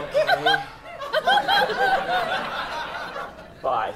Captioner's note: audience laughter